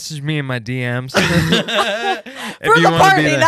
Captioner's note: laughing